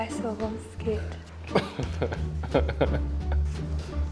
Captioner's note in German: Lachen; Verspielte Musik